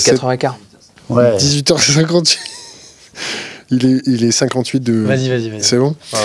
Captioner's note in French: rires